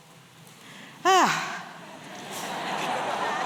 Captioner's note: sighs; laughter